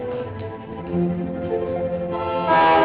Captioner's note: instrumental music playing; horn honking; instrumental music playing